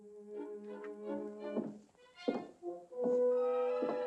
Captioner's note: footsteps